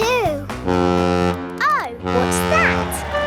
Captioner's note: horn bellowing